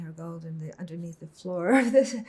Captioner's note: laughing